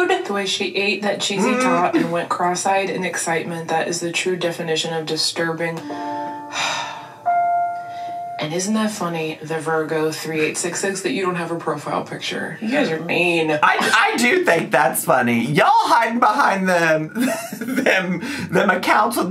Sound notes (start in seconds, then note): 5.8 dramatic music; 6.8 sighing